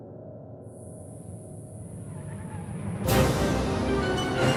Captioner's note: crickets and sound of cars approaching; theme music